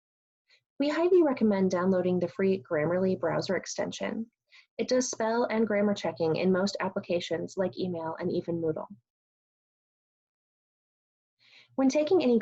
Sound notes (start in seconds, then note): 9.5 pause